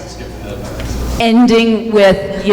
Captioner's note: murmuring